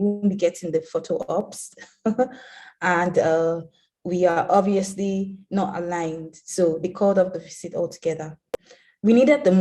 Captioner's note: laughs